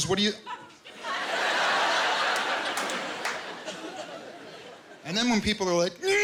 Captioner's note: laughter